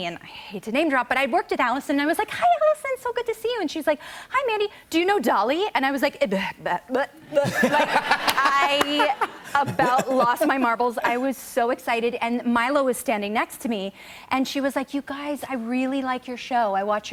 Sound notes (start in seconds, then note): 6.8 stammers; 7.3 laughter